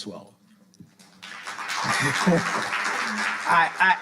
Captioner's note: audience applauding